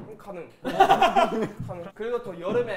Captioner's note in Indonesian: Hahahahahaha